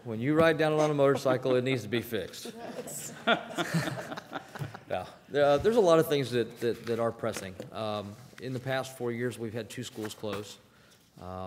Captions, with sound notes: - When you ride down it on a motorcycle, it needs to be fixed. (laughing) There's a lot of things that are pressing. In the past four years, we've had two schools close.